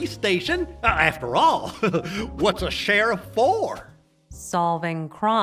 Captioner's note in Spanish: se ríe